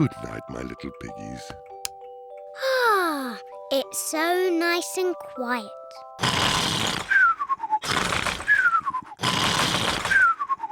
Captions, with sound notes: Goodnight, my little piggies. (SIGHS HAPPILY) It's so nice and quiet! (GEORGE SNORES LOUDLY)